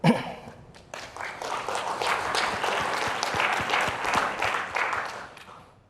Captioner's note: applause